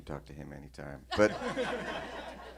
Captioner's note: laughter